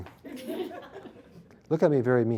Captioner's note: laughter